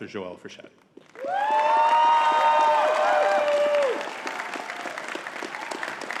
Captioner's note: audience cheering and clapping